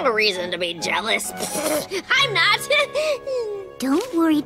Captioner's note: scoffs